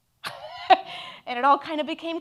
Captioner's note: laughs